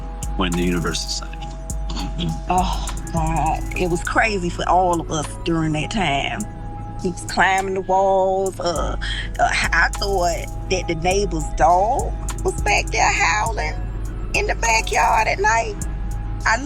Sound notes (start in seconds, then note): 8.4 ice cream truck